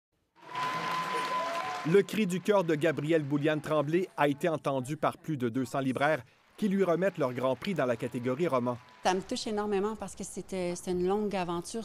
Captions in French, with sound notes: (applaudissements) - Le cri du coeur de Gabrielle Boulianne-Tremblay a été entendu par plus de 200 libraires qui lui remettent leur grand prix dans la catégorie roman.